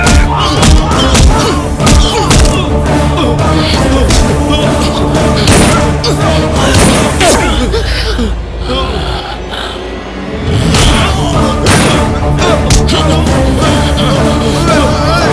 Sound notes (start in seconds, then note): 5.4 gunshot; 11.6 gunshot